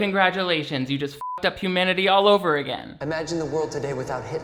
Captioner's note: beeps